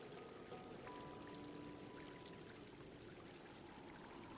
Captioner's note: water gurgles